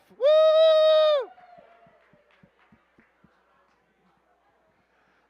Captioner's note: cheers, applause